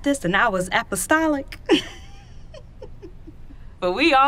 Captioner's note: laughs